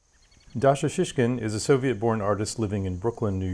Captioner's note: birds chirping